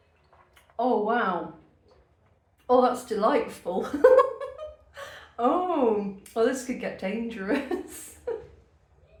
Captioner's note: laughter